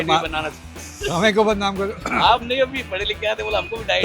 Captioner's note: sound of clearing throat